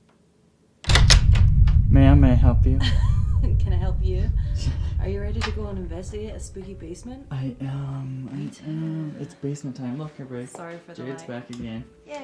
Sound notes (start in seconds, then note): 0.8 door latch clicking; 3.3 laughing